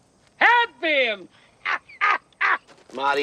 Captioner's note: laughing